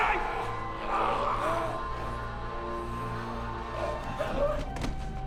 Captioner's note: groaning, gurgling